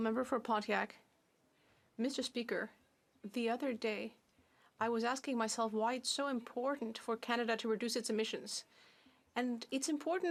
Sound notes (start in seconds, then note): 2.5 speaking French